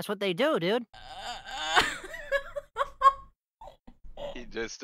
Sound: muffled wheezes

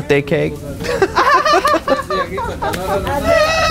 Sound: both laughing

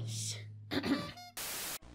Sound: cough-honk

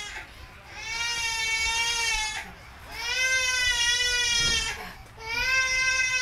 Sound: baby crying

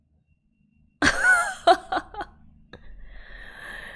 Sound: laughs

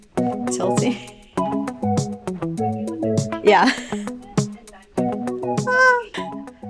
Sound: chuckles

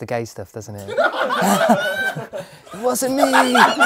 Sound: people laughing

